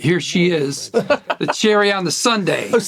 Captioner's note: Burnett laughing